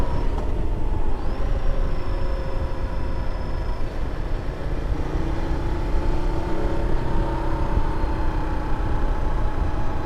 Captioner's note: engine rumbling